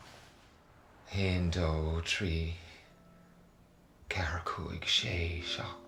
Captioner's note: speaking in foreign language